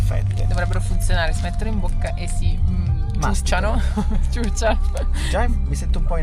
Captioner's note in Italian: risate